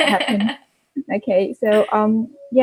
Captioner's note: laughs